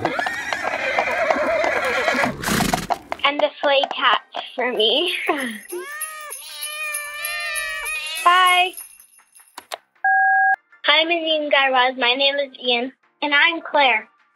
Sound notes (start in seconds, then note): 0.0 soundbite of horse neigh/hooves; 4.4 soundbite of cats meowing, jingle bells; 10.0 soundbite of beep